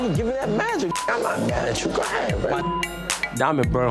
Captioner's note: beep